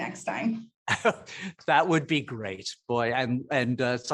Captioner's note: chuckling